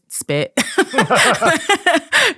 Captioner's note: both laughing